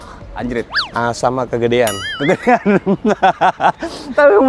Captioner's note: laughter xD